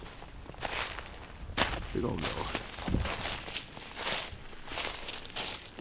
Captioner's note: snow and leaves crunching